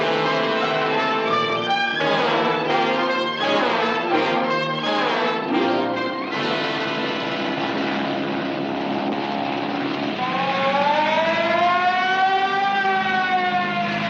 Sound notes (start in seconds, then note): 8.6 engine rumbles; 10.2 siren blaring